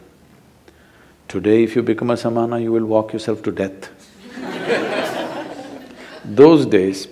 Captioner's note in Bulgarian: смях